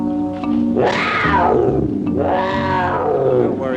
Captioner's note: leopard roaring